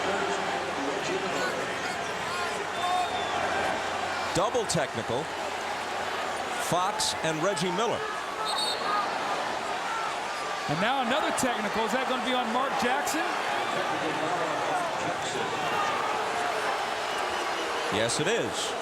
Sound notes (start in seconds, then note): 8.4 whistle blows